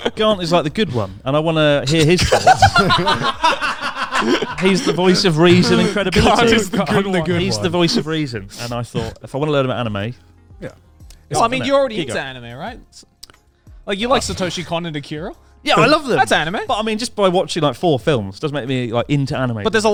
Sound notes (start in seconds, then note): 1.9 all laughing